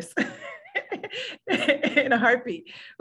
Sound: laughs

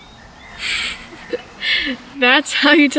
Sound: Amber chuckles

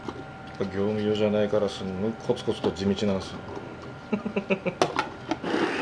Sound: laughs

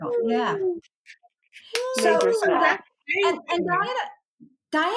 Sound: celebrating sounds

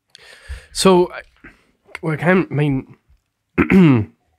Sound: clears throat

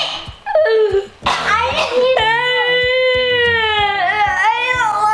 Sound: fake crying

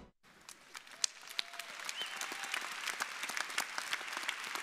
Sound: audience applauding

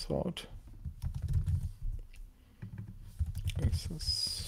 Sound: keyboard clacking

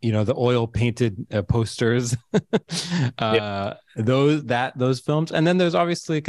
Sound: laughs

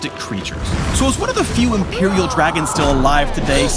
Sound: Smolder roars

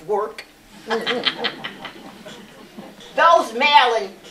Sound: laughter

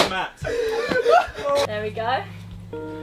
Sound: group laughing

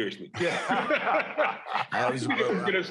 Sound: laughter

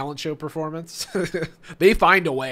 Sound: laughs

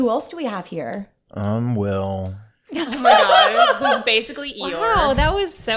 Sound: sounds very glum, like Eeyore, laughter

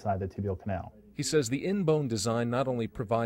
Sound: voiceover

